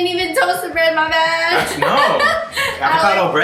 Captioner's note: laughs